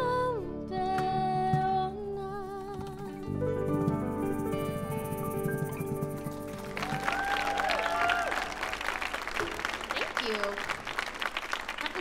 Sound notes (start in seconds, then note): 6.5 audience cheers and applauds